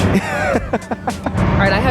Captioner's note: laughs